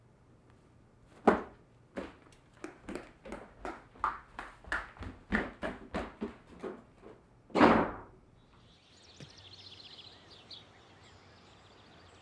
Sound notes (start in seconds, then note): 2.6 footsteps stomping; 8.3 birds chirping